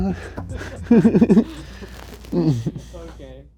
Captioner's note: laughing